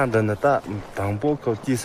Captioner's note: speaking in Tibetan